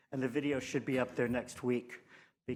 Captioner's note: none